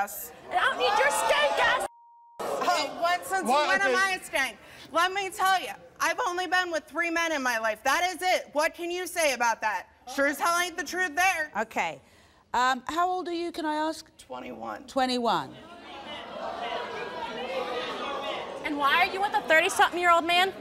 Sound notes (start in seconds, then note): 15.6 crowd yelling